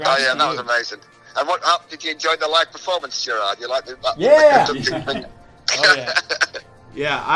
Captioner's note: laughs